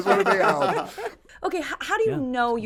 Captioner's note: group laughs